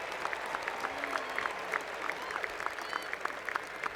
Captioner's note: cheers and Applause